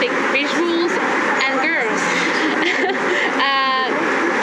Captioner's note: laugh